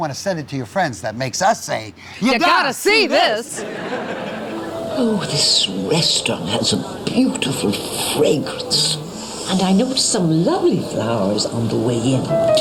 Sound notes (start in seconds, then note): 2.9 audience laughing; 8.8 sniffs